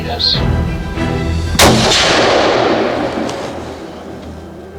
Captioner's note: gunshot